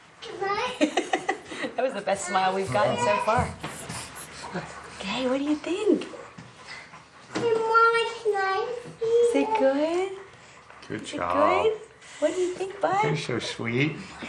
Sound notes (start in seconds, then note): 1.1 laughs; 7.3 child talking